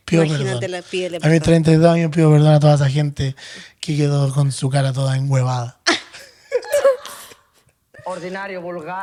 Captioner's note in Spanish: risas